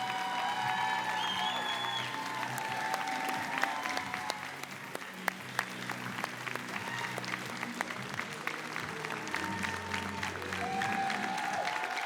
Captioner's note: cheering and applause